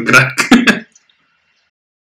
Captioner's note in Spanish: ríe